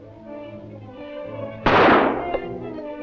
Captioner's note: gunshot